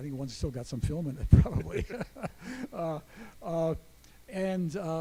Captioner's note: chuckles